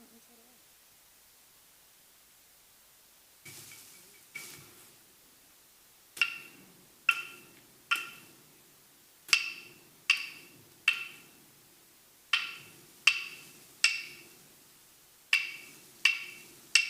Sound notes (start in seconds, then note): 3.5 leaves rustling; 6.3 sticks banging